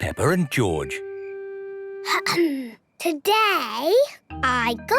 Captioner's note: clears throat